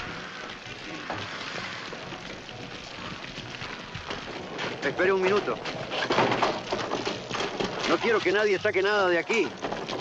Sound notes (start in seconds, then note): 0.7 fire crackling; 5.7 lock rattling